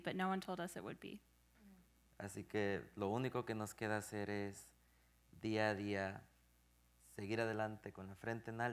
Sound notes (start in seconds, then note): 2.0 speaking in Spanish